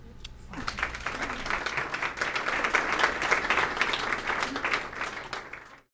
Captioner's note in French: applaudissement